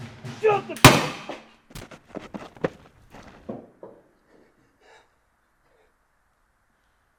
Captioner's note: gunshot blasting